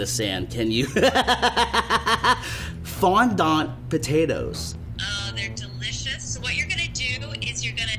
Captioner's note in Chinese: 笑聲